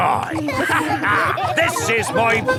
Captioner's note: all laughing